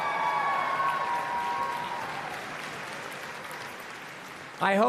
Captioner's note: applause and Cheering